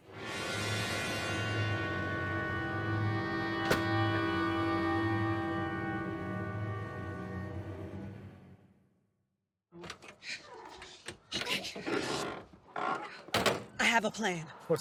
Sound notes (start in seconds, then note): 0.1 dramatic music; 9.6 car door creaks